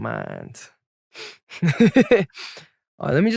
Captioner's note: chuckles